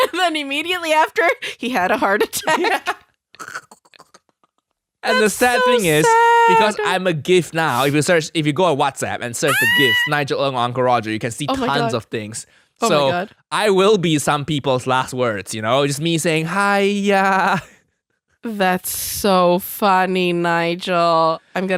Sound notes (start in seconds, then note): 0.0 both laughing; 2.3 both laughing